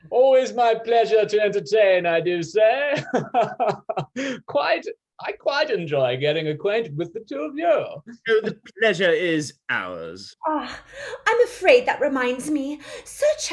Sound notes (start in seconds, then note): 2.8 Chad laughing